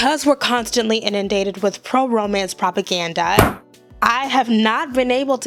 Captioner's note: slams